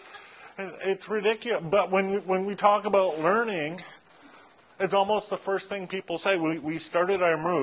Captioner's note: laughter